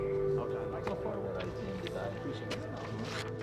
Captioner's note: indistinct chatter